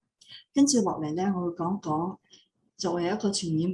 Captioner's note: non-english speech